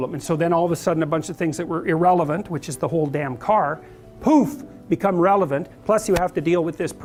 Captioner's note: poof